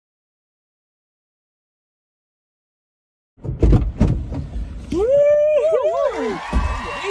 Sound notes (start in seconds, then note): 3.4 doors thumping; 4.9 men cheering